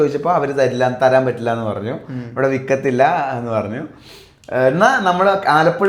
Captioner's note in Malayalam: ചീറ്റുന്നു